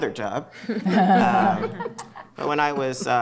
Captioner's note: laughter